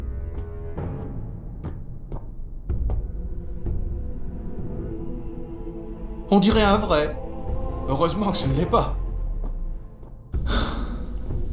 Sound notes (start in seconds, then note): 6.3 speaking French